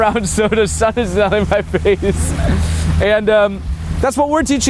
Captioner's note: laughs